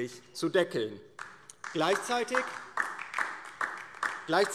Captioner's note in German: Beifall DIE LINKE